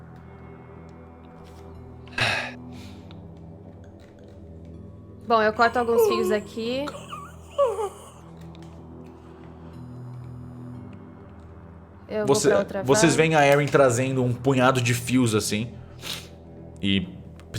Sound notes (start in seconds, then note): 2.1 sighs; 5.6 Beatrice groans